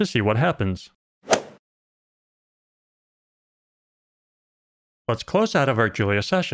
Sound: golf ball hit sound

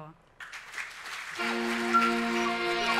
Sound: audience applauds

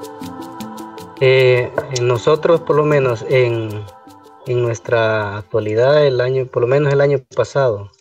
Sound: foreign Language

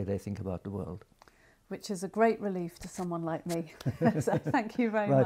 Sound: laugh

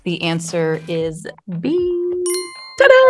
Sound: bell dinging

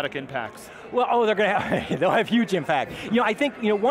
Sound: laughs

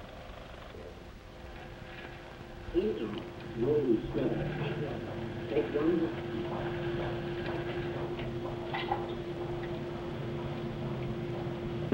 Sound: machine clicks

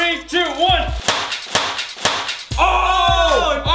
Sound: crash

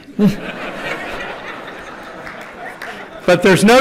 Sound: laughter

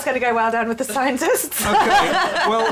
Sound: laughter

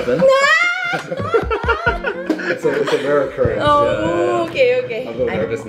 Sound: laughs

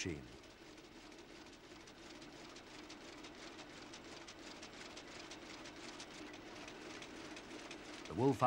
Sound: machinery makes a clicking noise

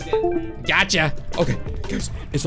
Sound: plug in sound effect

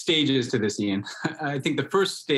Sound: laughs

